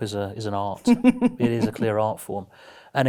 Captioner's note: giggles